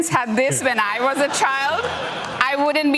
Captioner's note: laughter